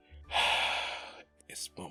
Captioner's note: sigh